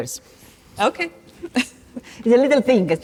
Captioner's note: chuckles